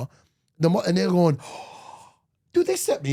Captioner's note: gasps